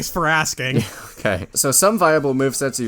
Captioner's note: laughs